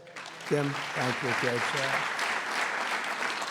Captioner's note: applause